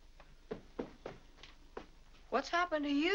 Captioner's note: footsteps up stairs